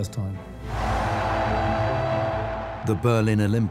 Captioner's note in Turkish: Kalabalık tezahürat ediyor